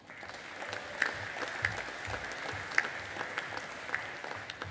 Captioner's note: audience applauding